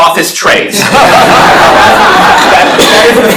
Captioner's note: laughter